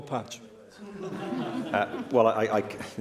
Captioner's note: laughter